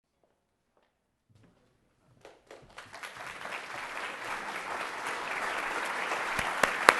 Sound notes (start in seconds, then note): 2.6 applause